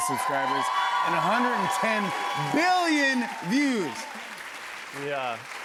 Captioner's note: cheers and applause